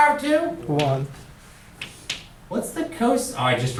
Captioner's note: voiceover